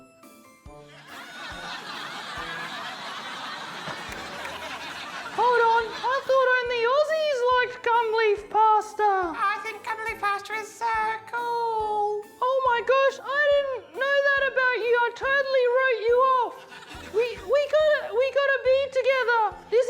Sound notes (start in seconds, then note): 0.9 laughter